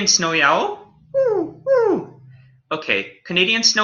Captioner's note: canadian Snowy Owl hoots